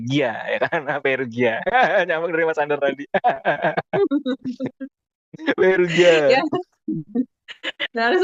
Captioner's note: laughs